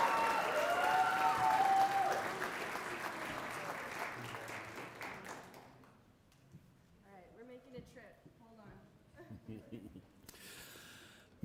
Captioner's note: cheering and applause